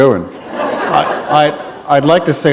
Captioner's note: laughter